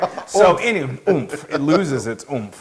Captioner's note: laugh